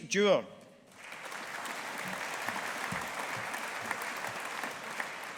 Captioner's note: audience applauding